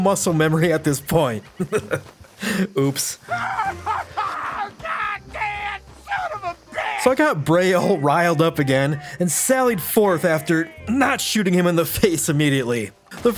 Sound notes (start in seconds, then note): 3.2 screaming